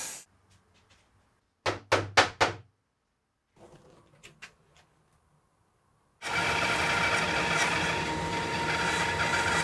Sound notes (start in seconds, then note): 1.6 hammer tapping; 6.2 saw buzzing